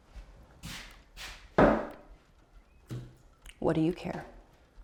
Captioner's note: bottle taps